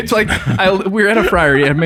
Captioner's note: PT laughing